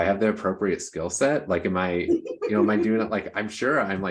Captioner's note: chuckles